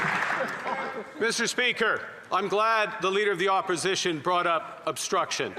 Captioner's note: some Applause